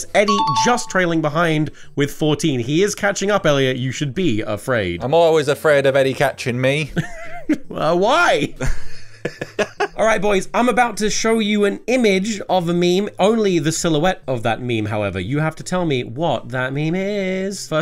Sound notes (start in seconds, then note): 8.6 laughs